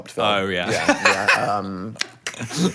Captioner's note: laughing